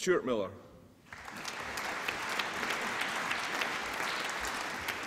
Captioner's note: applause